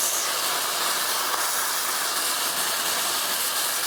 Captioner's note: food sizzling